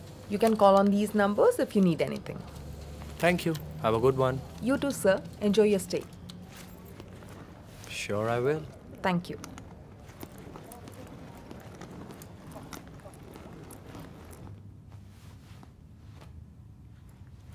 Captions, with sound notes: you can call on these numbers if you need anything. - Thank you. Have a good one. - You too, sir. Enjoy your stay. - Sure, I will. - Thank you. (Rustling of the bag)